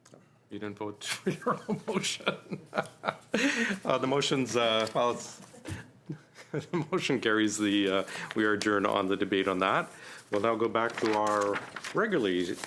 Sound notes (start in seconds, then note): 6.0 laughter